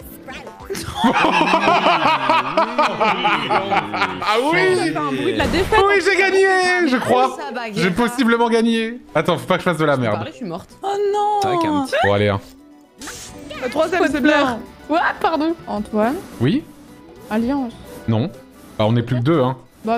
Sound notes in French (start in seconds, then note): 0.7 rires